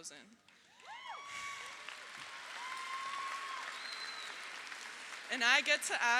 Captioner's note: audience applauds; audience cheers